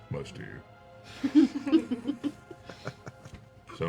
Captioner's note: laughter